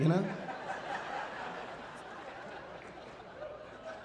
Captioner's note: audience laughing